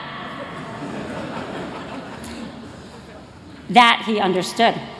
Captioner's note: laughter